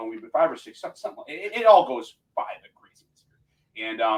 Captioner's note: voice muffling